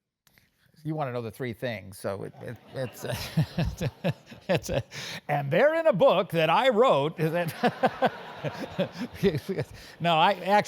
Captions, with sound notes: You want to know the three things. >> [LAUGH] >> [LAUGH] And they're in a book that I wrote. >> [LAUGH] >> [LAUGH] No,